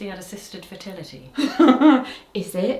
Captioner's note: laughs